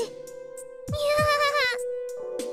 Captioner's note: sheepish laugh